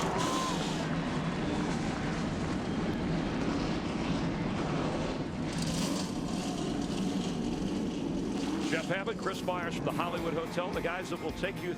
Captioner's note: engines roar